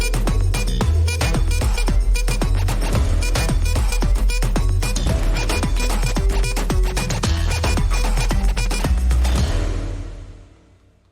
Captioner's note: applause